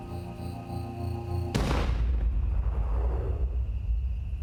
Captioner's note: gun fires